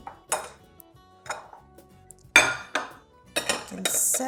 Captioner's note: bowls clinking